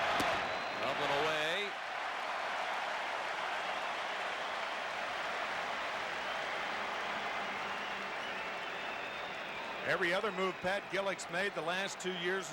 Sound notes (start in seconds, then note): 1.6 applause